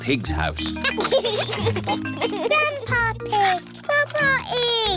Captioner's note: giggles